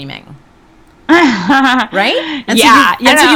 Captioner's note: person laughs